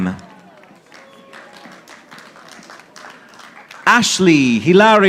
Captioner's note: audience applauding